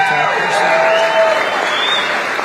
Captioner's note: applause